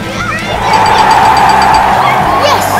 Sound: ding, ding, ding, ding!

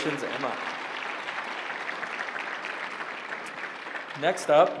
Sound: applause

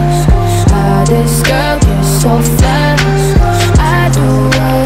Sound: skrrt, skrrt

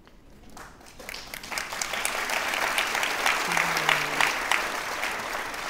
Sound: audience applauds

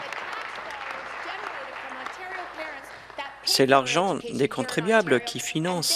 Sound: applause

